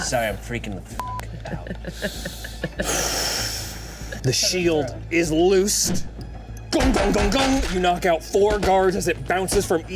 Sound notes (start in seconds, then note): 2.8 Walker exhales